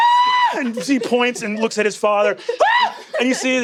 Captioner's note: shrieks; shrieks